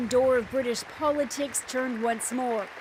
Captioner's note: applause